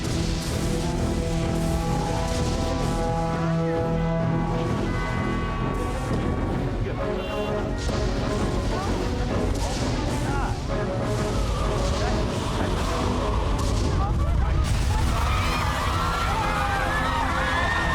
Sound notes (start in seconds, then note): 8.4 indistinct chatter; 14.9 crowd screaming